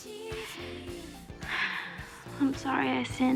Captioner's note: sighs